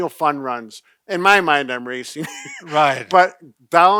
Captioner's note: laughing